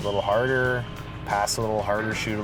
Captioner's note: whistle blowing